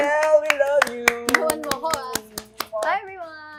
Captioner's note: applauding